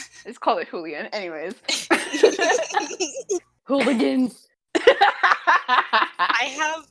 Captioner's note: laughter